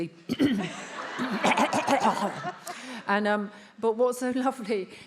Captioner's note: attendees laughs